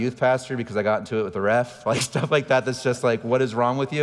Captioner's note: laughing